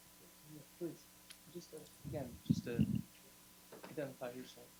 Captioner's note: gentle speaking